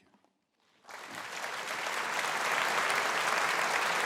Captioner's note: applauding